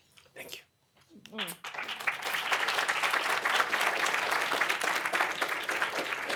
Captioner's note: applause